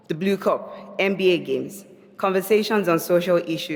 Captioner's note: none